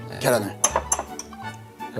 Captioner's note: tap, tap